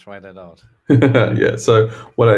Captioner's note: laughs